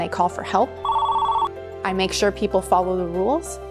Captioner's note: phone ringing